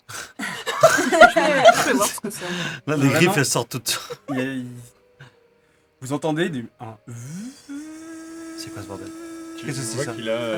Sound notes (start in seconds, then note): 7.3 turbine whir